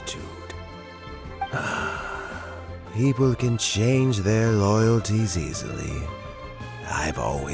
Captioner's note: sigh